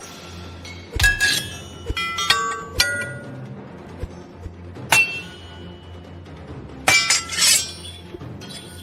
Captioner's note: swordfighting clangs